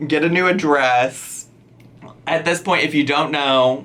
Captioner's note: none